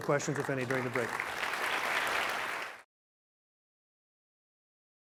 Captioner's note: applause